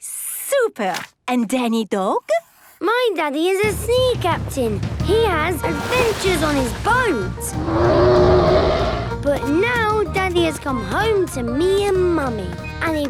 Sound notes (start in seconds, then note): 7.5 loud roar